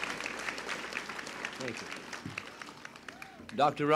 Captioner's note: applause and a child yelling "yay!"; applause continues